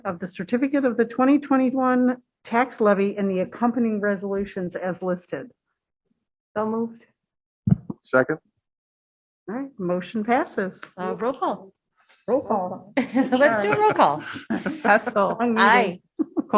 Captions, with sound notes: of the certificate of the 2021 tax levy and the accompanying resolutions as listed. >>So moved. >>Second. >>All right, motion passes. >>Roll call. >>Roll call. >>Roll call. (laughter) >>Let's do a roll call. >>Hessel. >>Aye.